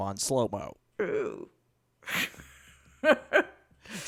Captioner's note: laughs